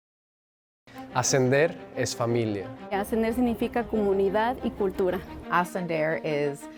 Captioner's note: students speaking in foreign language